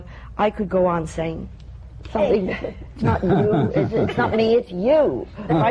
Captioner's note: laughter